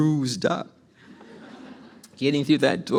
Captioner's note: audience laughs